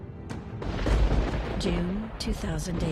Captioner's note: thunder claps